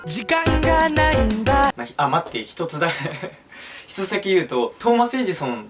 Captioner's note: insert awkward laughing